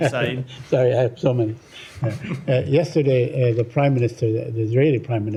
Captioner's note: laughter